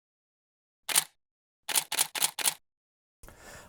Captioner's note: camera shutter sounds